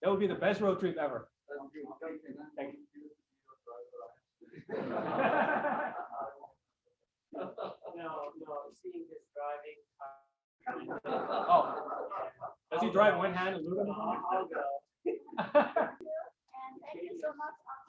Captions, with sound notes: would be the best road trip ever. (laughter) Thank you so much.